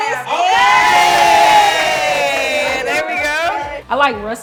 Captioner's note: cheering